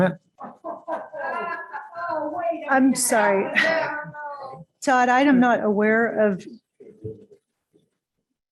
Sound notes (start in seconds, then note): 0.4 laughter